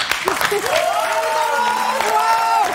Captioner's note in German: Applaus; Jubel